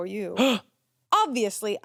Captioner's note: gasps